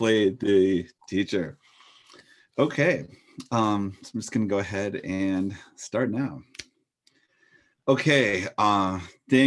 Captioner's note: clicks fingers